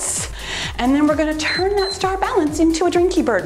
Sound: timer beeps

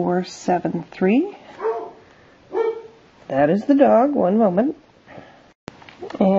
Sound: barking in background

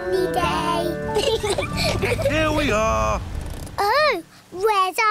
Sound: both laugh

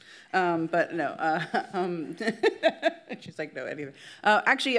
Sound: laughs

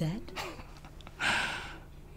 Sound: laughs; inhales

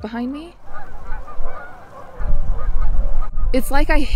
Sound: birds squawking

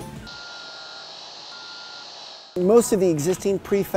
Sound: electric sounder sounds

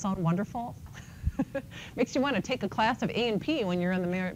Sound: laughs

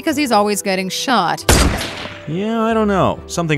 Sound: gun fires

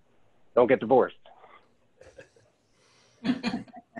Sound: laughs

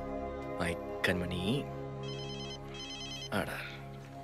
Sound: phone ringing

